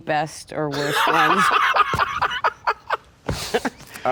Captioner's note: laughs